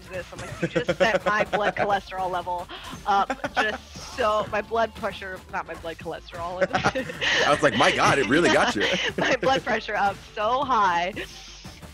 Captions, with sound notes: I'm like, you just sent my blood cholesterol level, my blood pressure, not my blood cholesterol. >> [LAUGH] I was like my God, it really got you. >> My blood pressure up so high.